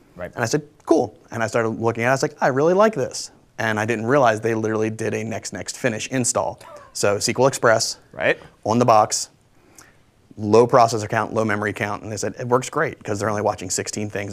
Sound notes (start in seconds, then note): 6.6 laughs